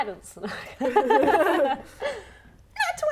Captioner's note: laughing